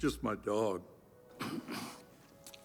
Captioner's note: coughs